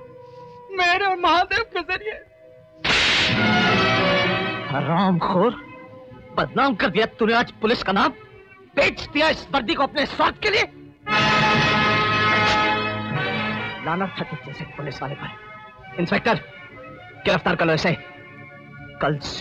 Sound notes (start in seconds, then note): 2.9 slapping